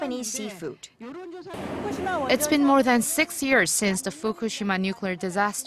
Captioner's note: Korean